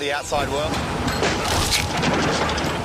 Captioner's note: crunching